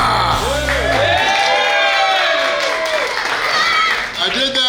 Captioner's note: cheering & Clapping